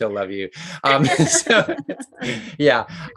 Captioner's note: both laugh